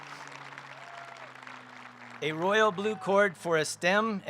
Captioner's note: applause